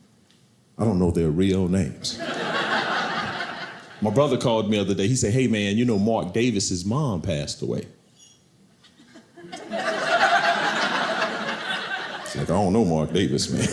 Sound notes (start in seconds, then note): 2.1 audience laughing; 9.0 audience laughing